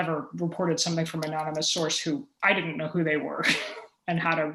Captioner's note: chuckle